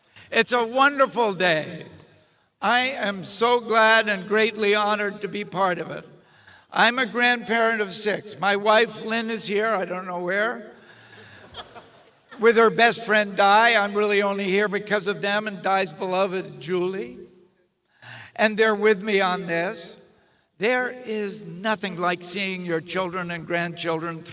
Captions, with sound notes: It's a wonderful day. I am so glad and greatly honored to be part of it. I'm a grandparent of six. My wife Lynn is here. I don't know where, (audience chuckles) with her best friend Di, I'm really only here because of them and Di's beloved, Julie. And they're with me on this. There is nothing like seeing your children and grandchildren